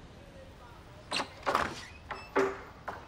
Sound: door opens

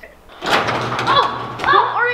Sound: weird alien noises; garage door closing

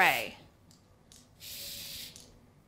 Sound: spraying

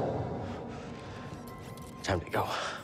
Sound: anxious breathing

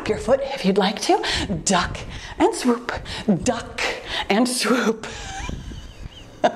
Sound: laughs

